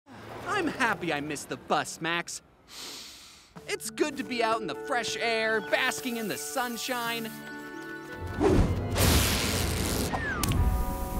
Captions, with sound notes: [sighs] I'm happy I missed the bus, Max. [sniffs] It's good to be out in the fresh air, basking in the sunshine.